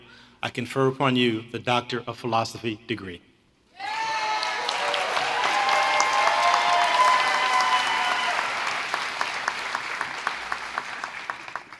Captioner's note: applause